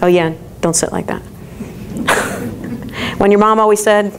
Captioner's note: crowd chuckles